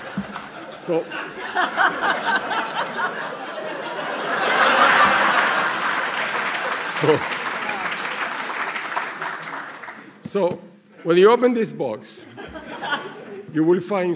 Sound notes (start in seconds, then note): 1.0 laughing